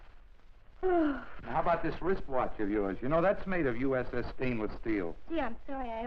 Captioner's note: Mary sighs